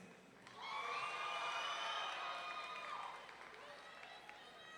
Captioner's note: audience cheering